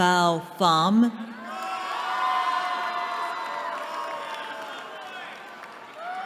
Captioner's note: cheering